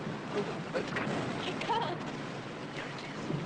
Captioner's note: Jem whispers